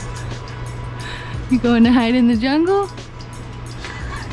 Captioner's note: laughter